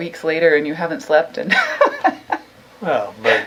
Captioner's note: laughs